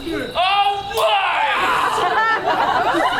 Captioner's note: slap